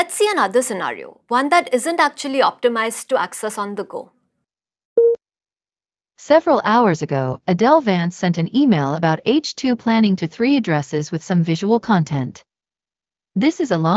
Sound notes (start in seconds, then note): 5.0 beep